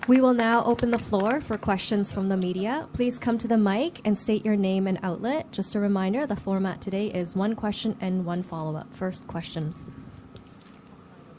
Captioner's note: applause